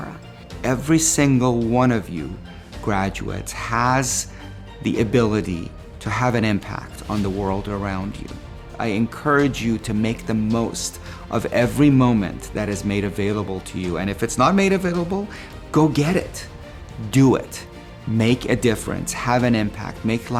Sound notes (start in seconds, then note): none